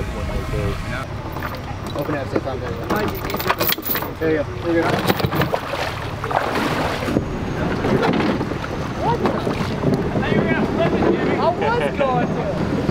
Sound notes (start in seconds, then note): 2.8 chains rattle; 2.9 water splashes; 9.7 background chatter